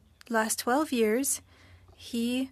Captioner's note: speaking French